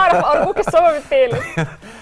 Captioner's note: laughs!